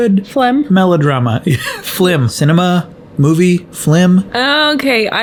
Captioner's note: laughs